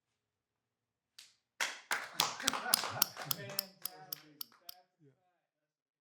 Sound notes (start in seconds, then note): 4.7 clapping; 4.7 crew laughing